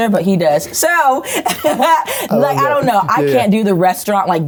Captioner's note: chuckles